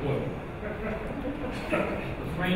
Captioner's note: audience chuckling